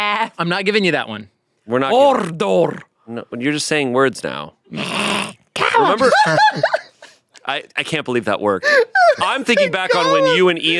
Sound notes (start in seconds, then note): 4.8 growls; 5.8 laughs